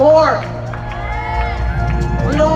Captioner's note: cheering